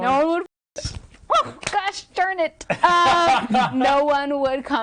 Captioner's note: laughing